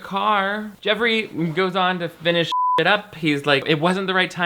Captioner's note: beep